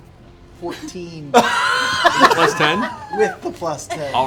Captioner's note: laughter